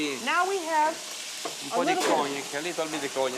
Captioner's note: speaking Italian